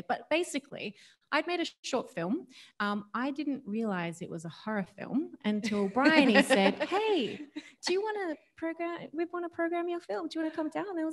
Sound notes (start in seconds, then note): 5.6 laughs